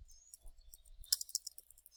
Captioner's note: typing